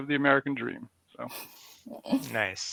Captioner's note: laughs